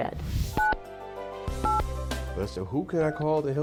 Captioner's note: phone dialing